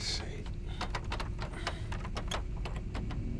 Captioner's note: door Handle Rattling